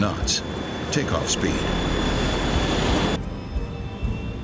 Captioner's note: jet whooshing